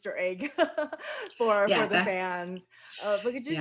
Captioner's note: laughs